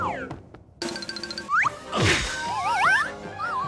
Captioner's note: thief crashes